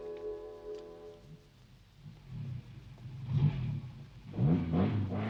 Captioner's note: car engine roaring